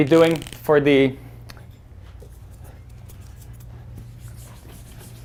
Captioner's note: erases whiteboard